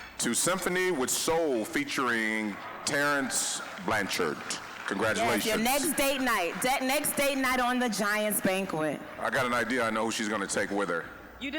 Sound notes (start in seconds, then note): 5.2 applause